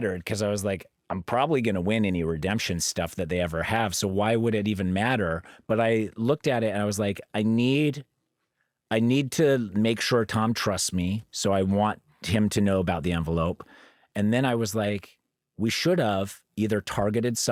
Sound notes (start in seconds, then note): none